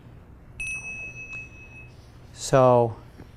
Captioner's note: bell ringing